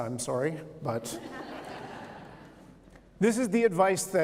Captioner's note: laughter